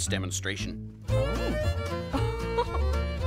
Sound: gasping, laughing

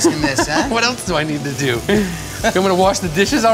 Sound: laughs

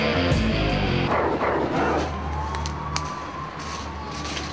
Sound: dog barking

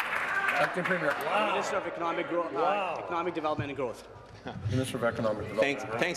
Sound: applause

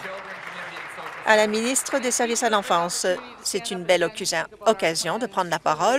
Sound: applause

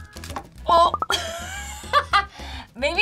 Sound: laughs

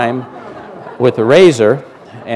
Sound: laughter

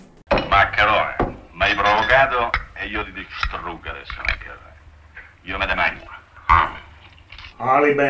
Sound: in Roman dialect

